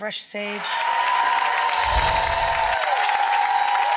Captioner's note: applause